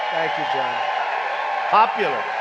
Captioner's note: applause